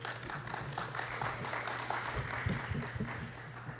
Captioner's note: applause